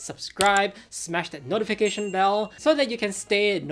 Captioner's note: belling tingling